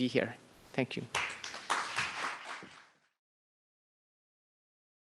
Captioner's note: applause